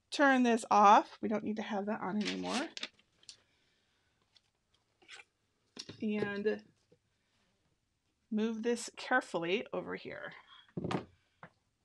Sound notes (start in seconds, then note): 2.2 paper tearing